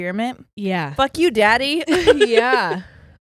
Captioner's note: giggles